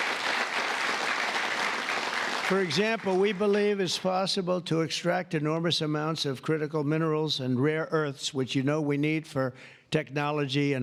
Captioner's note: applause